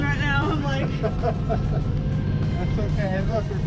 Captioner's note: laughter